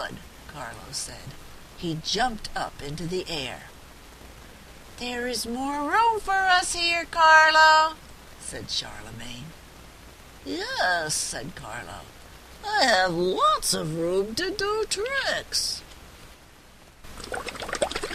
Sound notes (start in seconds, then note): 8.9 sound of bubbles in water